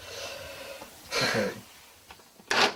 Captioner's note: laughs